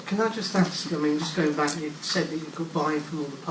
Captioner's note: voiceover